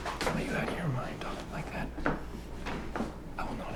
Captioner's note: whispering